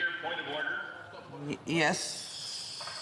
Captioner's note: speaking French